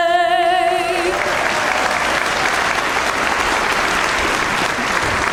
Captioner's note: audience applauds